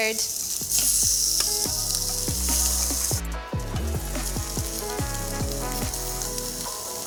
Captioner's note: prawns simmering; upbeat music